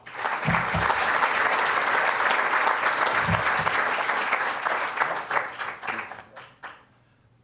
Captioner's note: applause